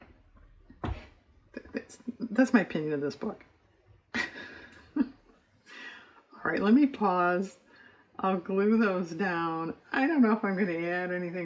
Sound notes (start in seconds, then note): 4.1 laughs